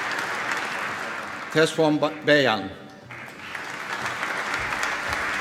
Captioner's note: applause